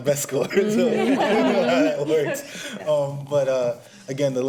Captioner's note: everyone laughs